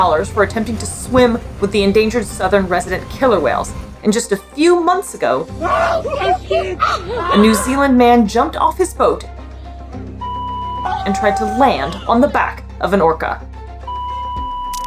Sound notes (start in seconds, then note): 5.5 background music; 5.5 people screaming and yelling; 9.5 background music; 10.2 sustained beep noise; 10.8 person screaming; 13.6 background music; 13.8 sustained beep noise